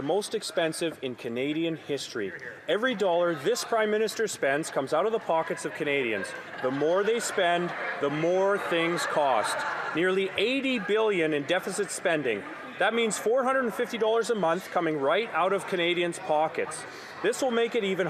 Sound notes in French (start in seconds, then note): 4.5 voix de l'interprète